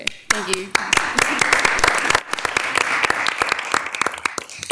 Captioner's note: audience applauding